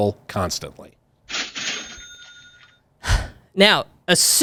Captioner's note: cash register ringing